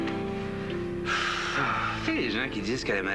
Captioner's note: Soupir